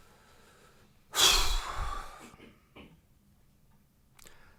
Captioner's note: sighing